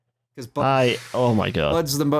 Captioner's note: blows out audibly